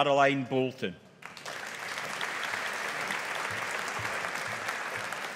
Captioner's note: audience applauding